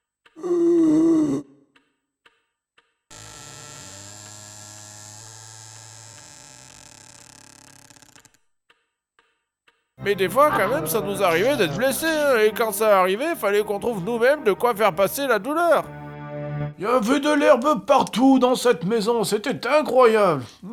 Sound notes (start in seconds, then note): 0.4 zombie rale; 3.0 creaking door